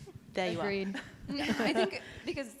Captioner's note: panelists chuckle